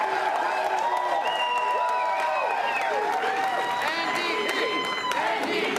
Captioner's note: applause and cheering